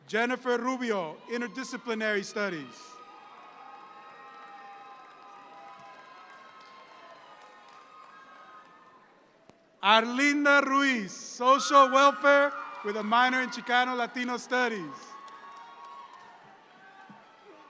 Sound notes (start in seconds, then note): 3.4 audience cheering